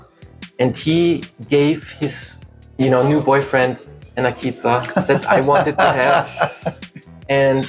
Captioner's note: laughter